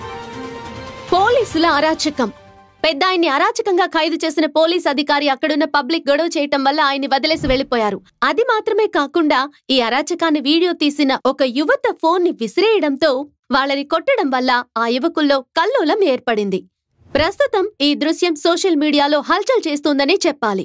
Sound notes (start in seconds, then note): none